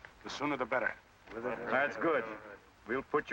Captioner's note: men murmuring